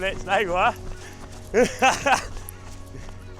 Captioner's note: laughs